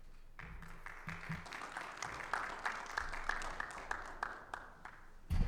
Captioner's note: audience applauds